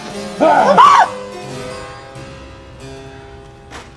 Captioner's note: harpsicord music; threatening growl and frightened squeal